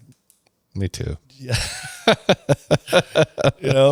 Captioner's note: laughs